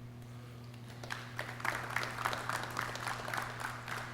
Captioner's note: clapping